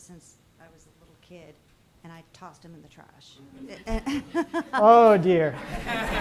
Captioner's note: laughs